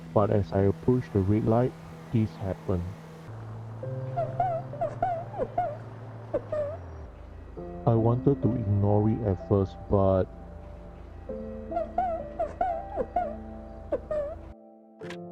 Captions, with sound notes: But as I approach the red light, this happened. *Sobbing* I wanted to ignore it at first, but..... *Sobbing*